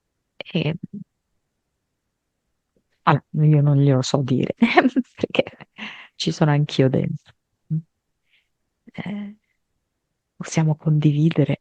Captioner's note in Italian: risate